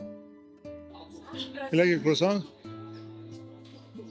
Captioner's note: speaking in foreign language